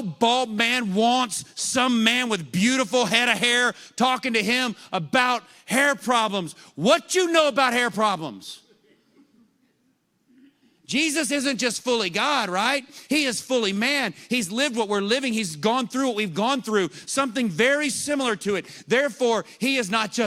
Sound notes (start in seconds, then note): 8.7 laughter